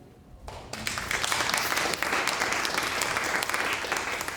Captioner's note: audience applauding